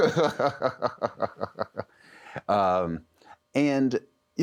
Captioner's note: chuckles